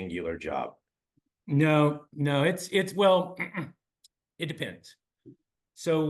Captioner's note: cough